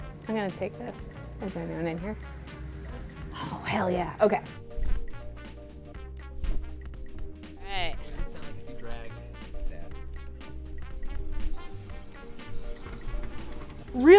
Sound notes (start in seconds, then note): 0.8 clicking; 4.7 whooshing; 10.8 squeaking